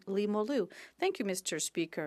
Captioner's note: speaking French